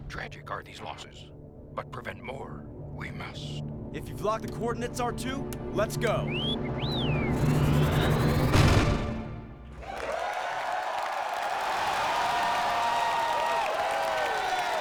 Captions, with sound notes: - Tragic are these losses. But prevent more, we must. - If you've locked the coordinates, R2, let's go. - [WHISTLES] [CHEERING AND APPLAUSE]